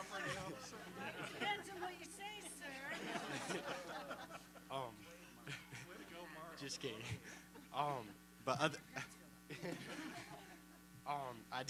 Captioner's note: laughter